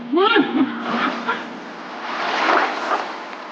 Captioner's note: Jake yelping